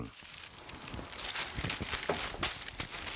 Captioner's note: rustling